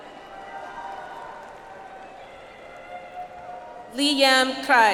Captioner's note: audience applauds